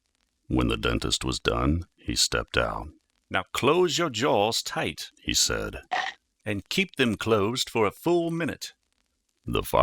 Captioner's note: teeth clenching